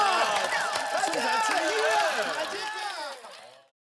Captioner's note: A fierce cheer